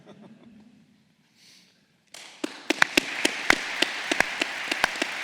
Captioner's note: applause